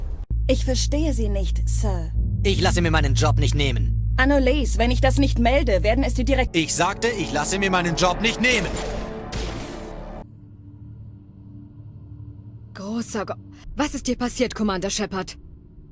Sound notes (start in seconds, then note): 8.4 bang